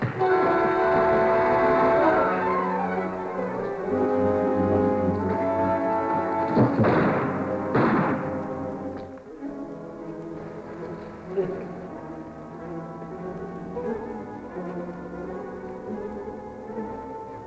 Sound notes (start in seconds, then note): 0.2 dramatic music; 6.6 gunshots